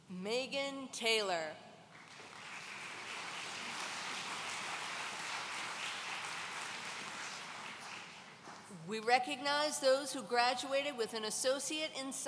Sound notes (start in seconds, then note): 2.7 audience cheering